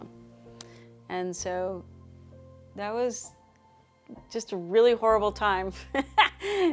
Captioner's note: laughs